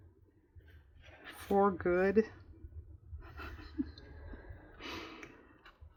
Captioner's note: laughs